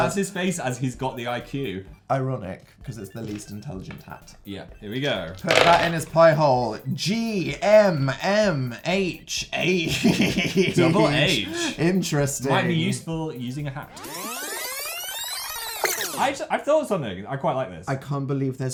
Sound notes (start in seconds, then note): 9.8 sinister laugh